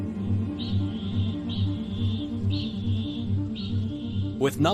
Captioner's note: kakapo chinging